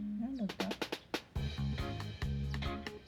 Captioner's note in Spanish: El pájaro cantando